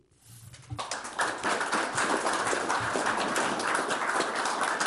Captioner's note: audience applauds